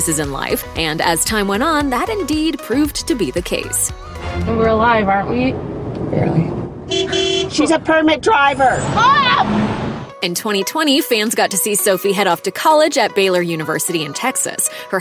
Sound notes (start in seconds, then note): 6.8 honking